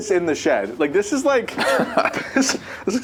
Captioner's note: laughs